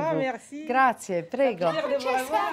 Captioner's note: speaks in Italian